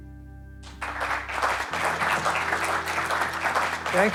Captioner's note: audience clapping